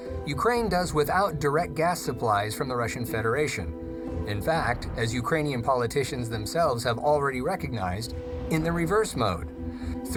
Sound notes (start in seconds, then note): none